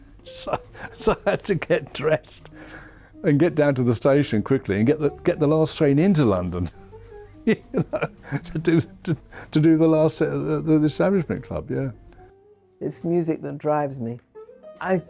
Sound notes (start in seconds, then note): 7.3 laughs